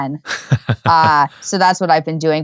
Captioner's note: laughing